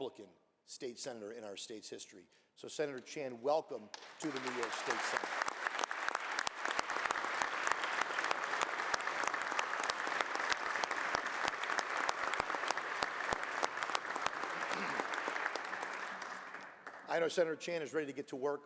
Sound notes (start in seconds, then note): 3.9 applause